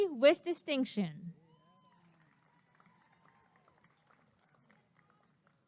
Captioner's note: applause and cheering